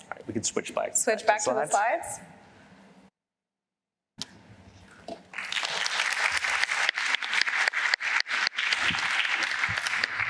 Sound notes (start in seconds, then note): 5.3 applause